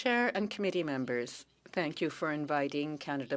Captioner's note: speaking French